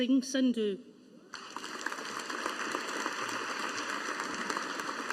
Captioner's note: audience applauding